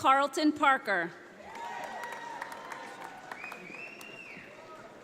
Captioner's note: audience applauding